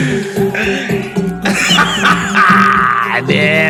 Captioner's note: laughing